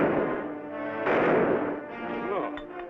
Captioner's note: gunshots bang